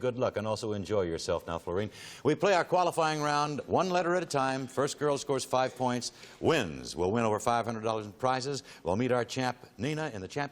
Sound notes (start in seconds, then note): none